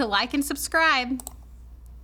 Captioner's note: mouse clicking